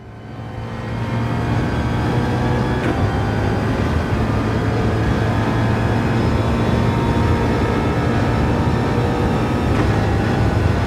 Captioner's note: engines revving, cars noises